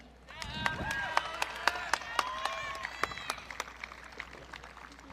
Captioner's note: audience cheering